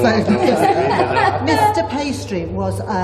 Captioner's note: laughter